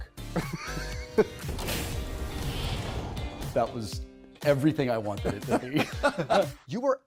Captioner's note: laughter